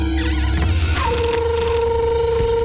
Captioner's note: Door creaks